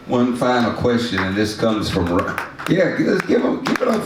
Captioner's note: audience claps